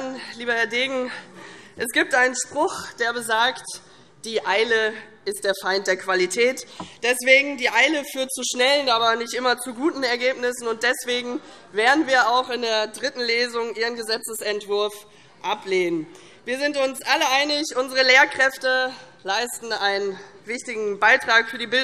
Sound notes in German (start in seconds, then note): none